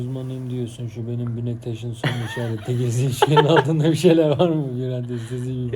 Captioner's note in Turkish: kahkaha